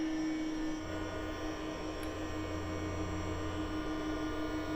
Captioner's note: fans whirring